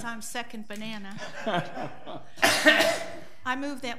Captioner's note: people laugh